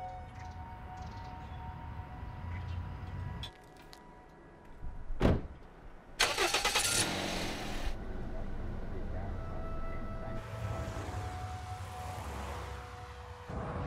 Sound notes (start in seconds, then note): 6.2 car engine starts; 10.2 slow instrumental music